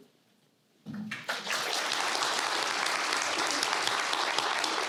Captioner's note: applause